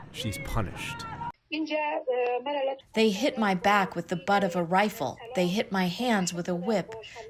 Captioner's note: through translator